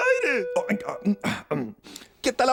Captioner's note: mumbles